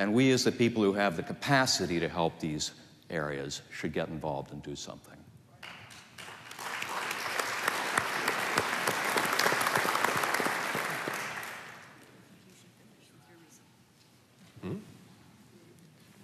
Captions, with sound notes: And we as a people who have the capacity to help these areas should get involved and do something. [APPLAUSE]